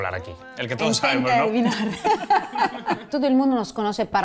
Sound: laughs

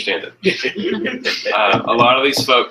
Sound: laughter

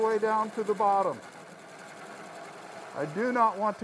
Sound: wood lathe chattering

